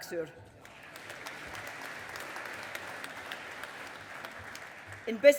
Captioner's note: audience applauding